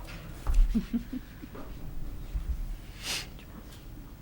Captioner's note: woman laughs softly